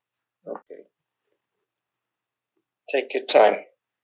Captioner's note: drinking